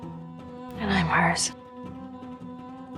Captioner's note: voiceover